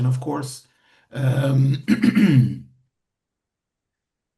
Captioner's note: clears throat